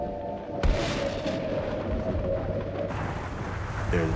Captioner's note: thunder claps